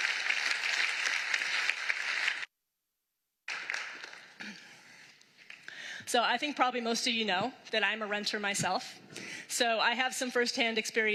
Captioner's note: applause